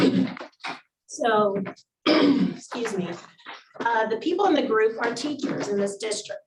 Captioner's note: clears throat